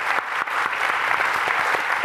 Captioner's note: applause